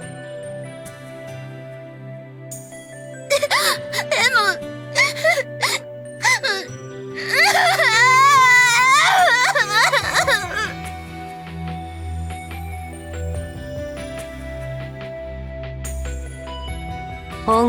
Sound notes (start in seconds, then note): 7.1 hic